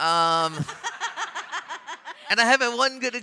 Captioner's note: audience and panelists laughing